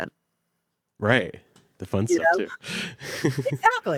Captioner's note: chuckles